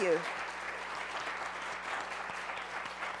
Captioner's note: applause